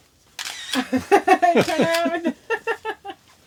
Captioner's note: camera clicks, both laugh